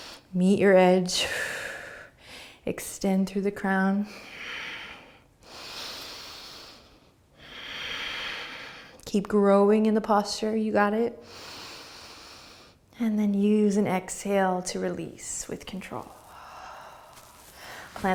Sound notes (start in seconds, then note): 4.2 breathing; 11.2 breathing; 15.9 exhaling